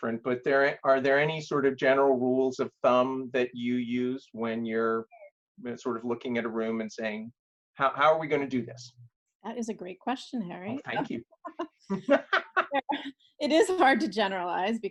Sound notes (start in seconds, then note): 11.9 laughs